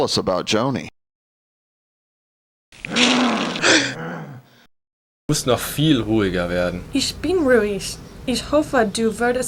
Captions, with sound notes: to tell us about Joni. (monster groaning) (speaking in foreign language)